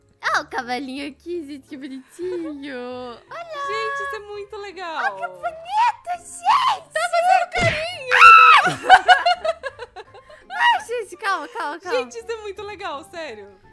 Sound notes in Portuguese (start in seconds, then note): 8.0 grito; 8.6 risada